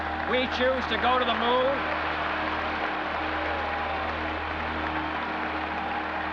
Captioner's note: audience cheers and applauds